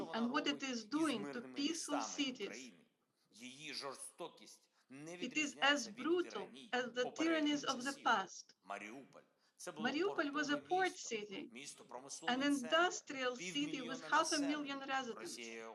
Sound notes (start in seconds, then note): 3.2 Volodymyr speaking foreign language